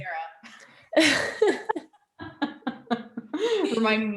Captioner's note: both laughing